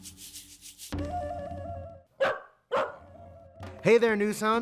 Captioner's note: upbeat music; dog barking